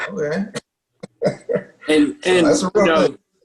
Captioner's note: laughs